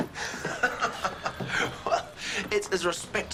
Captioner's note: laughter